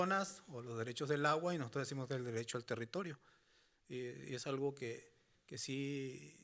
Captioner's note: speaking Spanish continues